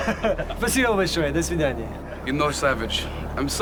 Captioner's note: speaking Russian